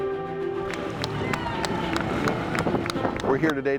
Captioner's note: patriotic music; applause